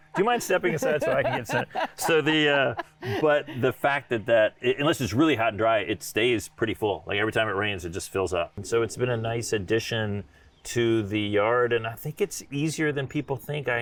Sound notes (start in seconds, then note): 2.0 laughing